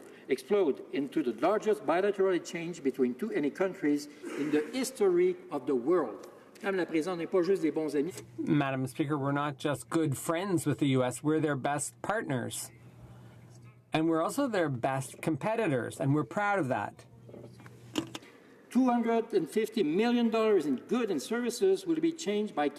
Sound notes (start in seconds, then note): 13.7 speaking french